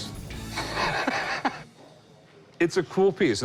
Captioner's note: laughter